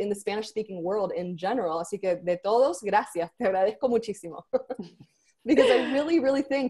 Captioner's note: speaks foreign language